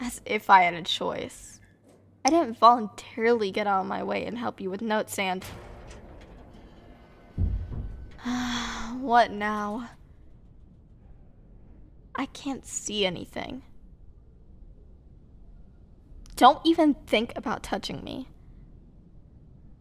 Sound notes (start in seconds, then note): 5.4 sound: elevator malfunction; 8.2 sigh